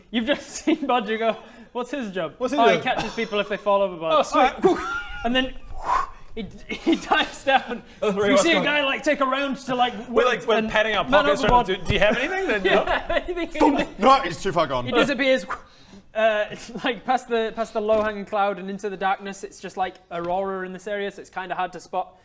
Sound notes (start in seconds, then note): 5.7 whoo; 12.0 pffmfp